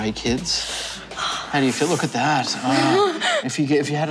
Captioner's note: giggles; inhales